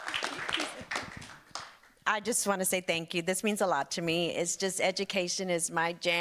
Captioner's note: applause